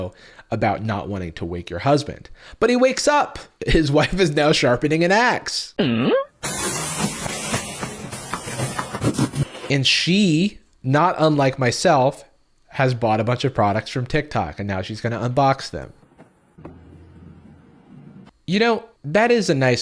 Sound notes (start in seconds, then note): 5.7 questioning noise; 6.4 boxes moving across a floor